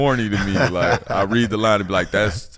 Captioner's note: laughing